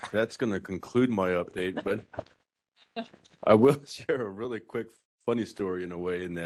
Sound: laughing

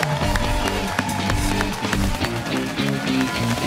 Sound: cheers and applause

